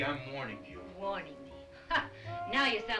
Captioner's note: scoffs